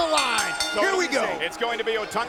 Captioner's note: bell ringing